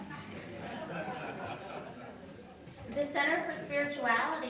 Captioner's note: people laugh